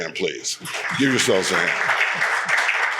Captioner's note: audience applauds